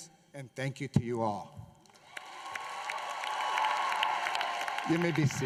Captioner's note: applause